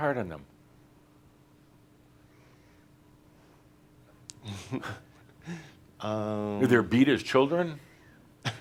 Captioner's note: pauses and shakes his head and chuckles